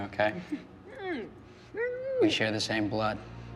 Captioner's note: male executioner grunting